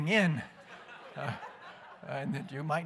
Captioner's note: laughter